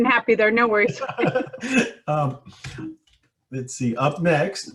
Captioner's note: laughs